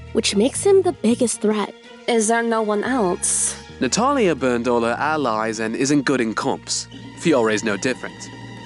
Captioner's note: none